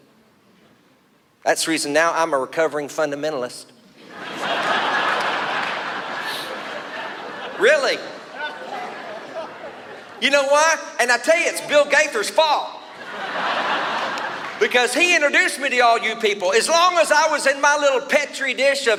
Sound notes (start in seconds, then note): 4.0 audience laughs; 12.9 laughs